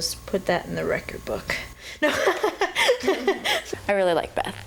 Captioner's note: laughs